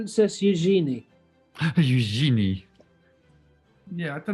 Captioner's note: french accent